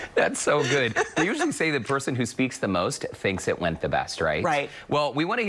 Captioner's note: laughter